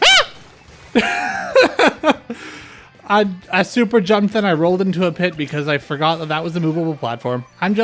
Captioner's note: laughter